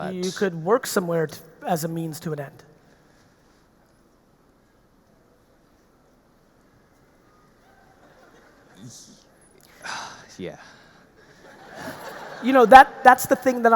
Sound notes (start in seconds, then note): 9.7 sighs; 11.4 audience laughing